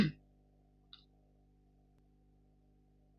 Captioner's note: clears throat